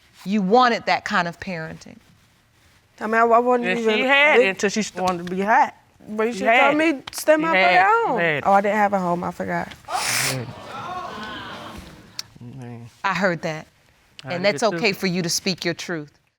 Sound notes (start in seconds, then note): 2.8 stammering; 9.8 audience exclaiming